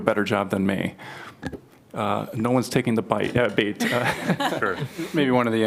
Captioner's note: laughter